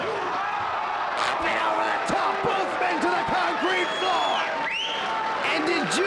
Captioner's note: presenter speaking faintly off mic